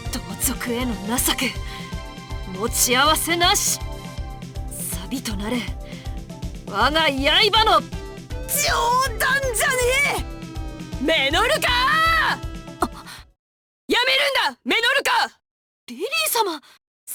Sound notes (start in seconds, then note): 12.9 gasp